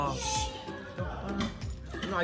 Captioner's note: whines